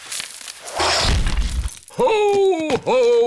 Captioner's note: thuds